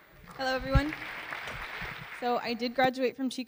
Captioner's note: audience Clapping